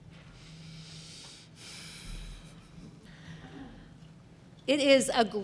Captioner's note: exhales